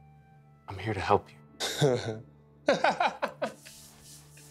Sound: Matt laughs

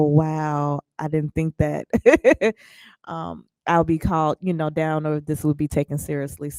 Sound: laughs

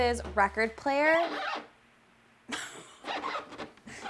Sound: record player squeaking; laughing; record player squeaking

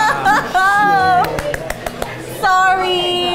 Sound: laughing loudly; claps hands

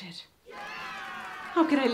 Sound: children cheering

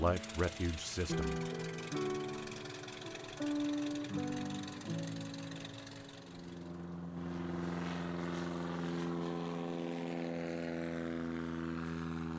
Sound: sound of plane motor

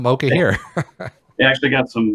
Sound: laughs

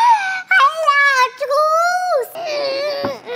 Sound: shouts

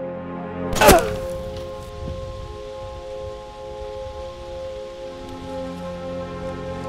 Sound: German man groans; gunshot booming

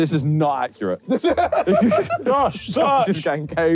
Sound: JJ laughing

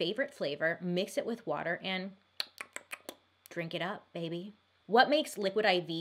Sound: smacks lips

